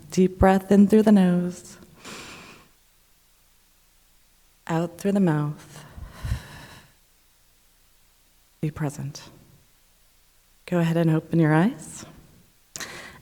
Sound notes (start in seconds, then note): 2.0 inhaling; 5.9 exhaling